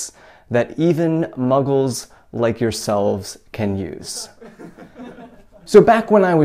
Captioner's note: chuckle